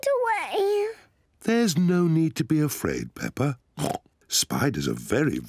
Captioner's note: oinks